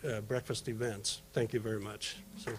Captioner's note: applause